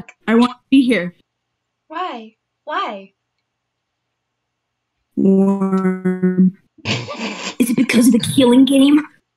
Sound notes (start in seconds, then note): 5.4 glitching; 6.8 stifled laugh